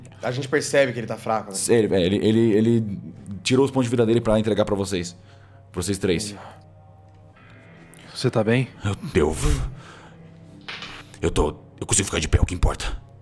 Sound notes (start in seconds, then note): 9.6 sigh